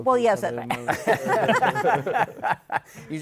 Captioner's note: laughter